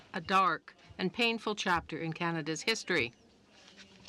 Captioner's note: speaking french